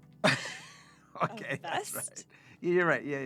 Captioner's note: laughs